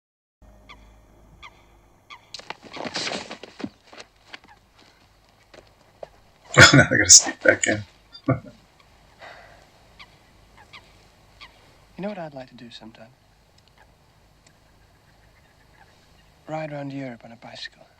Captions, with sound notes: [Chuckling] Oh, no. Now they've got to sneak back in.